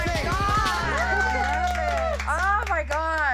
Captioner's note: all cheering